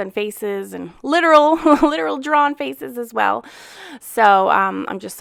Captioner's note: laughs